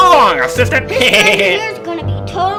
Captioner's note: evil laugh